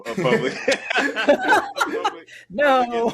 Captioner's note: all laughing